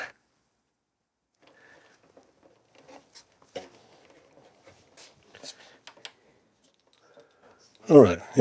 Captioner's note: silence